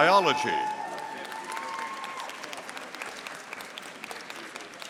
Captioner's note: audience applauding